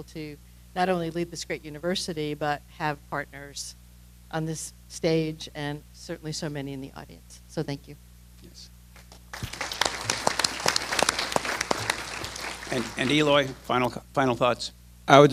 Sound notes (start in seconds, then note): 8.9 applause